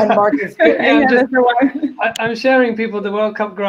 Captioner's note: murmurs